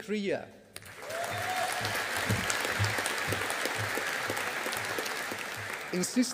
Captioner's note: audience applauding